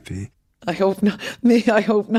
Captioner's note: laughs